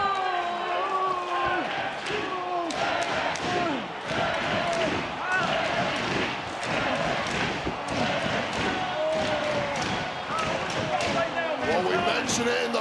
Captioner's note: audience chanting "nxt"